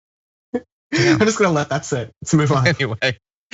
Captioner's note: laugh